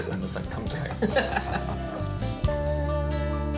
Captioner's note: all laugh